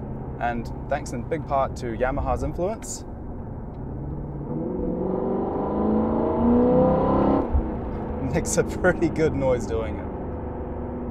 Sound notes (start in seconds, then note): 3.4 engine sounds